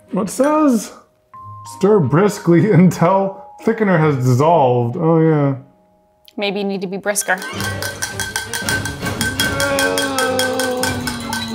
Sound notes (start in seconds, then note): 0.1 fork clinking; 7.2 action music; 7.3 fork clinking; 9.4 groaning